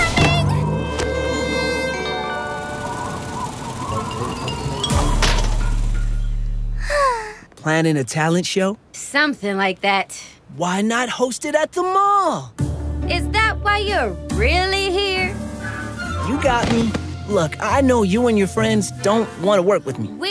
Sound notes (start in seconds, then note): 5.0 fan clangs; 6.7 Lady Diva Sighs